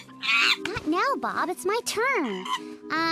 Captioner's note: Bob chatters loudly again; Bob chatters defeatedly